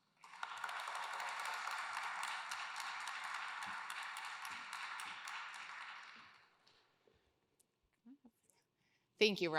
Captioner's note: applause